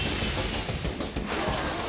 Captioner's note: jets whoosh